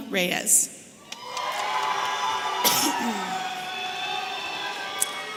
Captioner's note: audience cheering